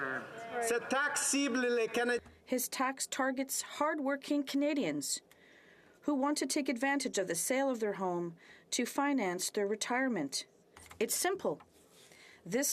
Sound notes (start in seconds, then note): 5.2 speaking French